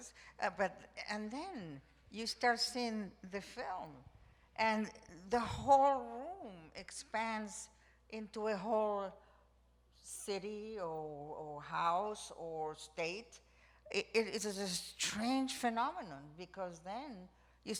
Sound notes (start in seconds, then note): none